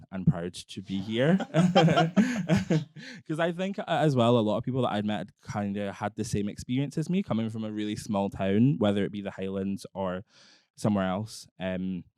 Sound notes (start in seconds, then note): 0.9 both laughing